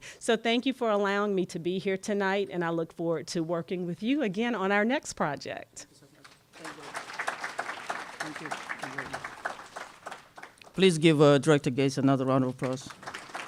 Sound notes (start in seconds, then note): 8.1 applause